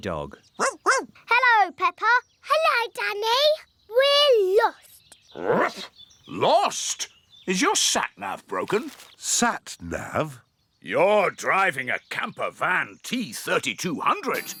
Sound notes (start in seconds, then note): 0.6 barking; 5.4 barks